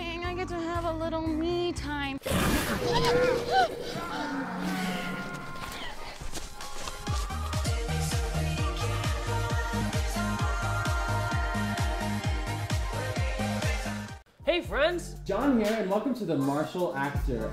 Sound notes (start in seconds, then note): 2.2 creature growls; 6.8 upbeat music